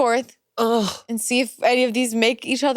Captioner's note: groans